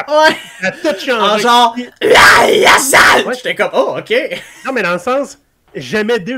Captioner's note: Goblin scream